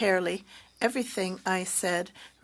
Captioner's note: speaking French